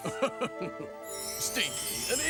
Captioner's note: Jake laughing